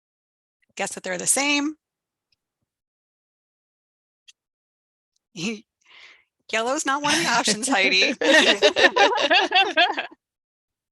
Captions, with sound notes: A guess that they're the same. Yellow is not one of the options, Heidi. [LAUGHTER]